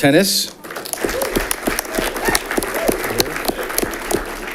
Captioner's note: audience clapping